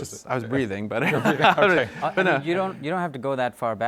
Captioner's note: panelists laughing